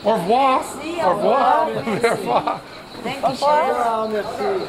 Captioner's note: french; speaking french